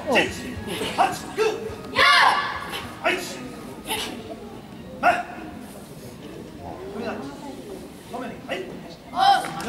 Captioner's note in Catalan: Crits de karate; Aplaudiments